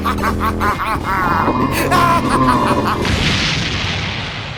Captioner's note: maniacally laughing; growling; maniacally laughing